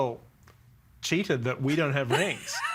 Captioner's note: all laughing